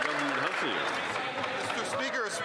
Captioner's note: some Applause